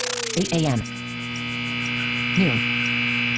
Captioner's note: buzzing